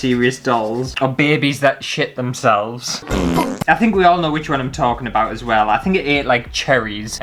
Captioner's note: fart!